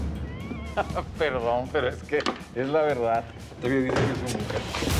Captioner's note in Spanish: risa sarcástica